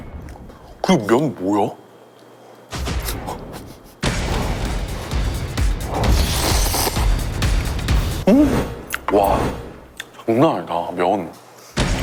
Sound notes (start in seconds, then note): 3.4 laughs, then takes another bite; 3.5 A disbelieving laugh?